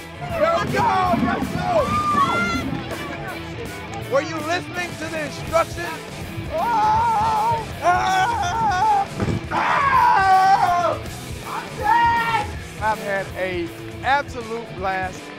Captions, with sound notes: Let's go! Let's go! Were you listening to the instructions? [T.O. YELLING] I'm dead! I've had an absolute blast.